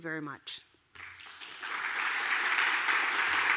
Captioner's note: applause